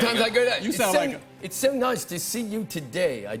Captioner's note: British accent